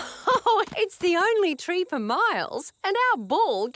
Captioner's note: laughs